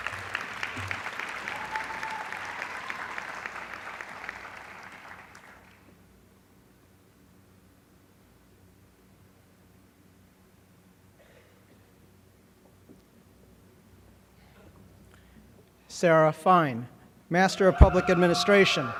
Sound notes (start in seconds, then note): 0.0 applause